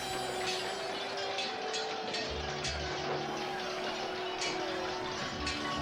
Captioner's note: warriors yell; swords clank